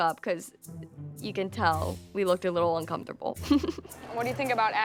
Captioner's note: laughs